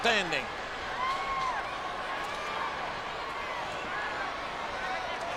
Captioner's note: audience chattering